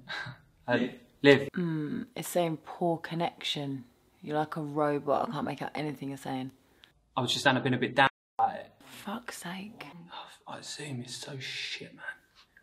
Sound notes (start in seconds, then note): 7.2 tinny, distorted